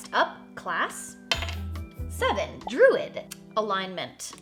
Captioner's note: die clacks